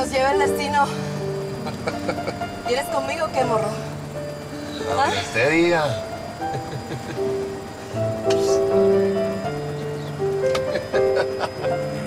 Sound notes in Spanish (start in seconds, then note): 6.4 Ríe